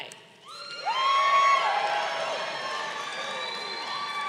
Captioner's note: crowd cheering